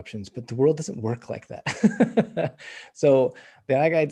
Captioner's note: laughs